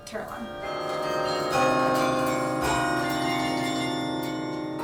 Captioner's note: bells chiming